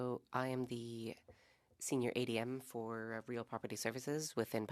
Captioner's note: speaking French